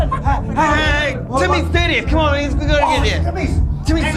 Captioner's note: slurred